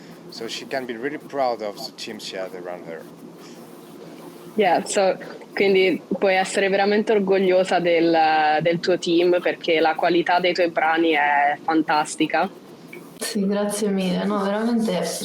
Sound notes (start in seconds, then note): 3.3 speaks Italian